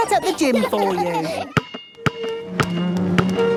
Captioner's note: chair scraping